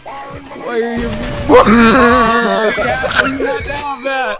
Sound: wheezing

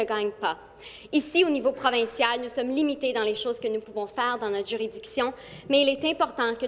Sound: speaking French

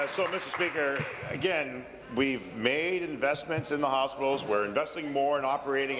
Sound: applause

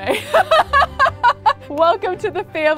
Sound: laughing

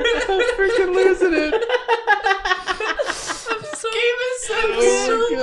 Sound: laughs

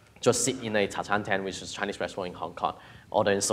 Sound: speaks in foreign language

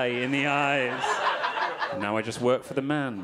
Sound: audience laughing

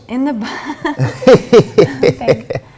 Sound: laughs

